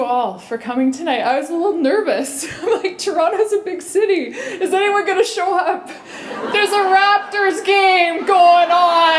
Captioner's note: laughter